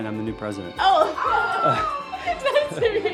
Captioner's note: laughing